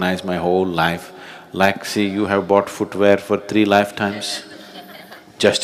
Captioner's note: laughter; 笑聲